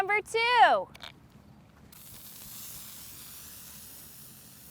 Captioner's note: fizzing